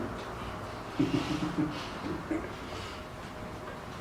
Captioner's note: chuckling